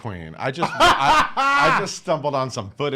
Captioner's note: laughs